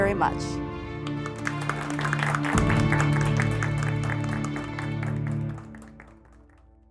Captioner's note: applause - music